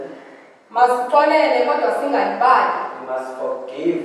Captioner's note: woman speaking foreign language